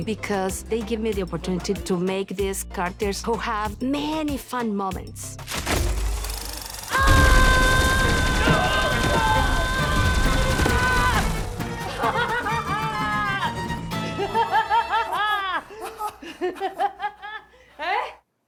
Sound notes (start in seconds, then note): 6.9 roaring; 15.8 both laugh